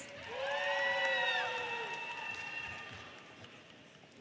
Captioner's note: audience cheers